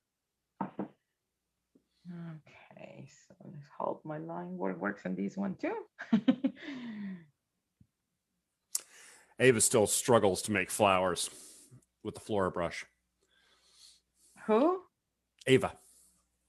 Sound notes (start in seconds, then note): 6.0 chuckles